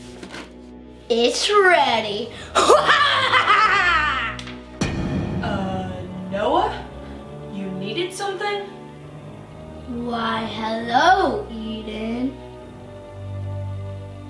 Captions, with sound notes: It's ready. (laughs manically) - Uh, Noah? You needed something? - Why hello Eden.